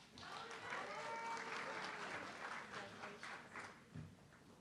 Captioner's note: audience clapping